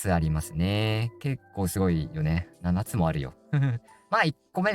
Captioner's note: laughs